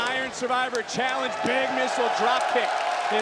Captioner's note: crowd cheers